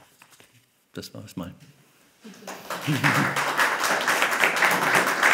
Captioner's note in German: Applaus